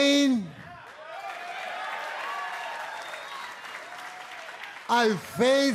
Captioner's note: cheers and applause